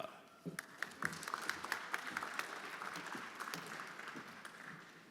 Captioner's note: everyone applauding